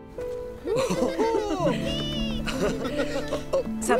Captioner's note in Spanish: risas